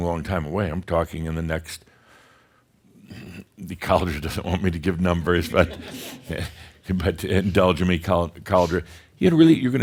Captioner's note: a few chuckles